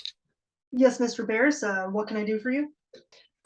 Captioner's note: speaking to communicator